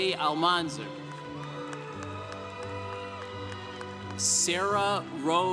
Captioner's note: congregation cheering